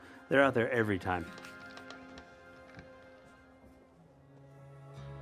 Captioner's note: door creaking